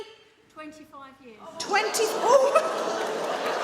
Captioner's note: audience gasp